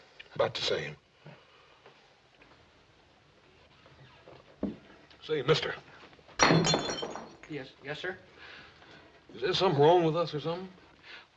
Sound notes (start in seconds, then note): 6.4 glass breaks